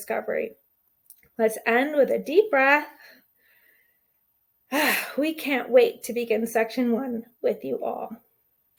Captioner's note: take a deep breath